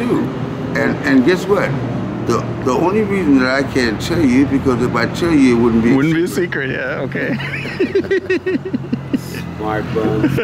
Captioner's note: all three laughing